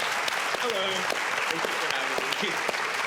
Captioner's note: audience applauds